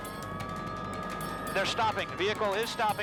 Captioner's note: siren blaring